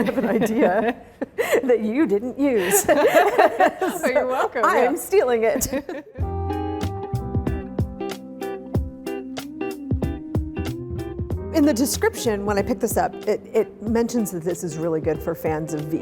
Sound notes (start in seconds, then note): 2.6 both laughing; 6.9 gentle music